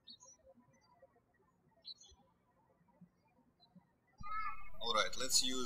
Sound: birds chirping

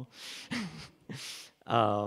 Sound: chuckles

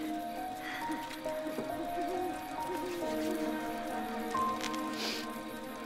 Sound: owl hooting

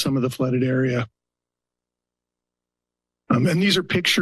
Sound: pause

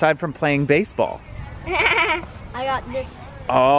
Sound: laughing

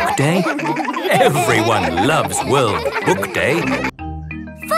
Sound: laughter

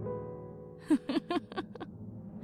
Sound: laughs

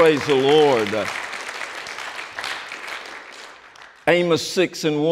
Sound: applause

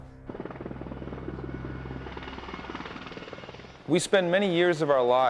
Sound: helicopter blades humming

